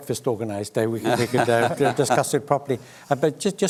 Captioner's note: laughs